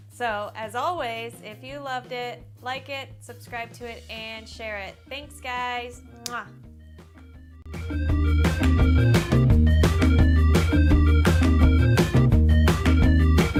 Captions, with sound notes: So as always if you loved it, like it, subscribe to it, and share it ! Thanks Guys! (kiss)